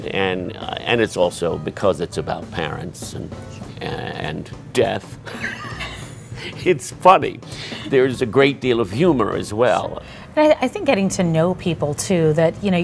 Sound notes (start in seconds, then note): 5.2 laughs